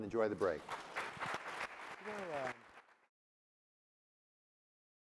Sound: applause

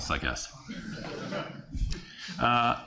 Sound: laughter

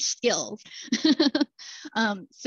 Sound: laughter

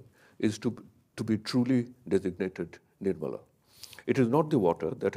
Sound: speaks in a foreign language

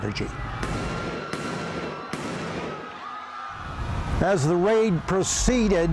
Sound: guns firing and people screaming

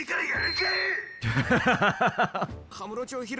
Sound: laughs

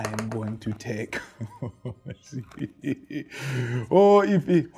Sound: chuckles nervously

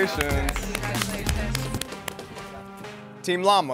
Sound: soft applauding

